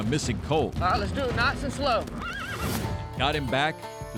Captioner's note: horse neighing